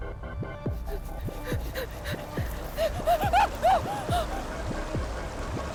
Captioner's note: heavy breathing